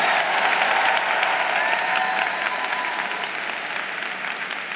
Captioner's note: crowd cheering